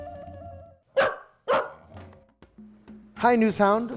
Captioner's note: dog barking